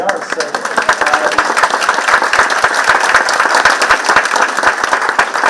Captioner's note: participants clapping